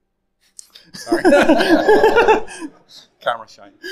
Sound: all laughing

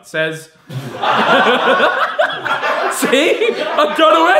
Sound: audience laughing

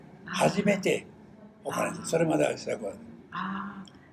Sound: foreign language

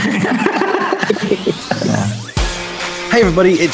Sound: laughter; upbeat background music

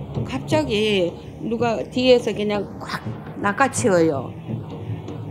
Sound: speaking foreign language

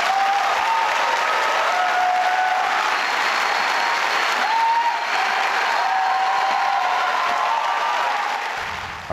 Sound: fervent applause

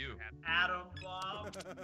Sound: laugh

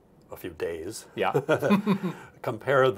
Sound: chuckles

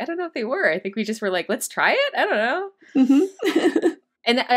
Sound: laughs

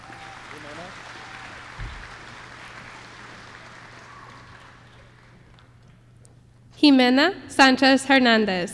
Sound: applause

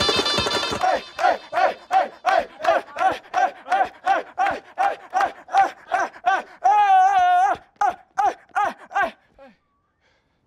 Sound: chanting

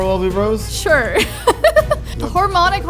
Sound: laughs

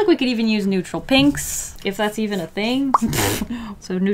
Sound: laughs

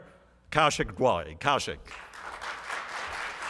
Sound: applause

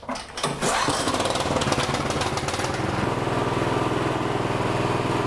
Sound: snowblower engine roaring

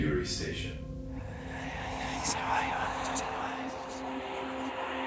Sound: ghostly whispering

